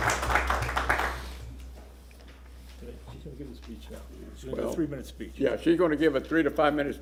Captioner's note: applause